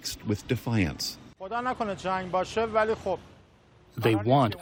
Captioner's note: through translator